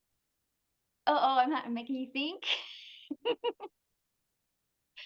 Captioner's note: chuckles